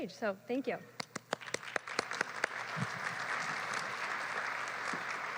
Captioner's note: clapping